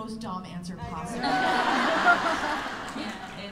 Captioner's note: laughter